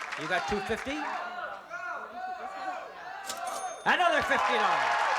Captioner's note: crowd shouting go